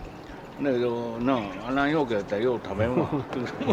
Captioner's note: laughs